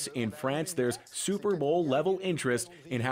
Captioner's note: speaking French